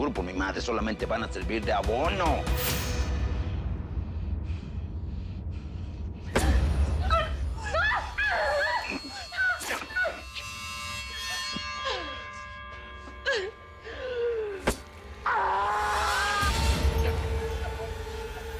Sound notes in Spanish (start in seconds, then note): 9.5 Gemidos